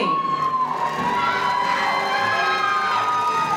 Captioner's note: crowd cheering; audience cheering